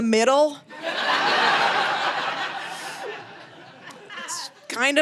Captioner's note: audience laughing